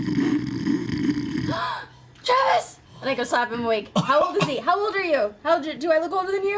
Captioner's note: snores; gasps